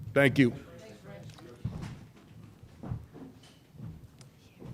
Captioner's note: audience chatter